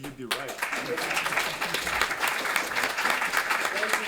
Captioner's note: applause